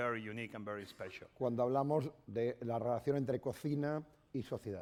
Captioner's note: speaking spanish